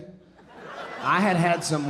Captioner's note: audience laughing